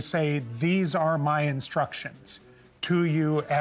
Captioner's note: none